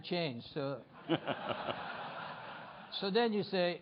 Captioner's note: laughter